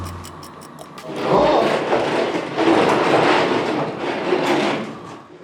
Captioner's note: Motor-Geräusche